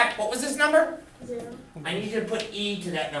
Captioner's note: voiceover